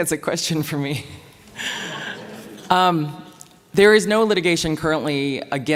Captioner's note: laughing